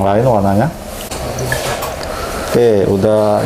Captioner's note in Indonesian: suara tinta dituang